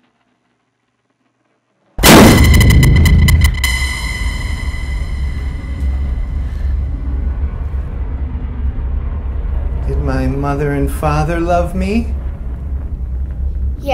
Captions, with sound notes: (popping) (dramatic music) - Did my mother and father love me? - Yes.